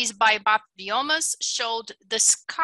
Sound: foreign language

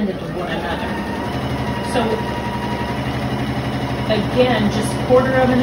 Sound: sewing machine noises

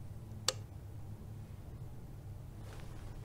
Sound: lightswitch

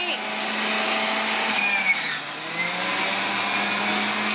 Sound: loud blending

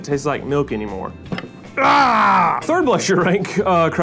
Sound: yells

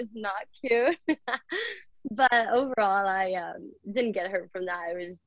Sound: laughs

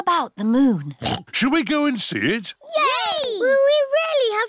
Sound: oinks

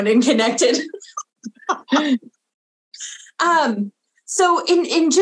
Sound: everyone laughing

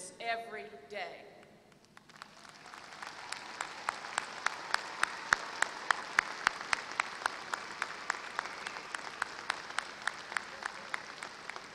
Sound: applause

